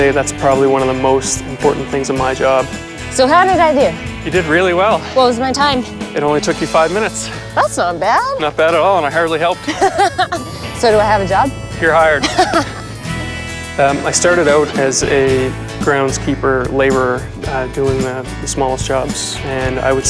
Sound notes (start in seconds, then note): 9.5 laughs